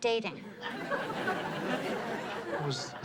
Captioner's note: audience laughs